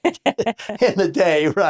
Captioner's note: laughs